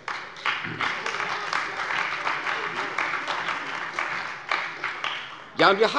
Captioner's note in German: Beifall bei der CDU und dem BÜNDNIS 90/DIE GRÜNEN